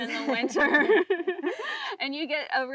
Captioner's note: both laughing